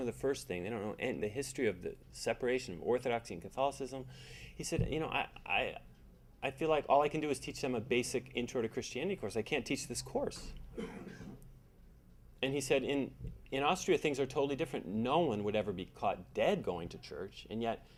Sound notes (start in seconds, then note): 5.6 stammering